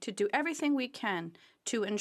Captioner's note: speaking French